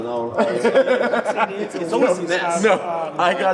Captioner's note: laugh